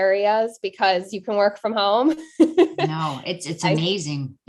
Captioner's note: chuckling